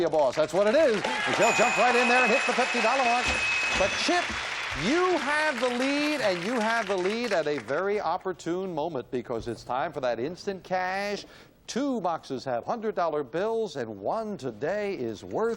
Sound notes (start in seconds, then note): 5.9 ding; 6.2 bell